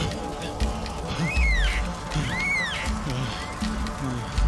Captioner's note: bird cawing